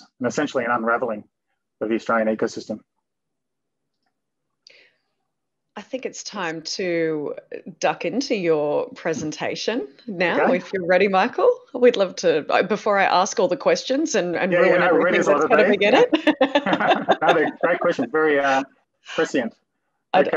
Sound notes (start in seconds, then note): 14.9 laughing